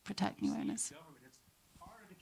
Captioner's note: speaks faintly